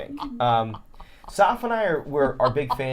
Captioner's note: triumphant laughter